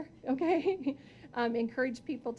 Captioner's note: chuckling